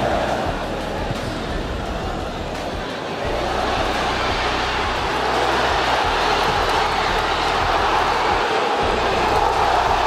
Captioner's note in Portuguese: sons da torcida; gritos de gol